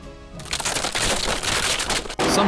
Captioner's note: crackling